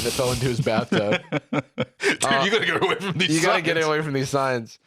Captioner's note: laughs